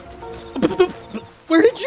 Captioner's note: sputtering